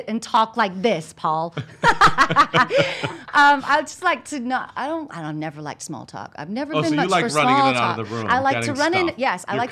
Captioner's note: laughs